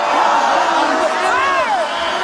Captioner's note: audience exclaims in disbelief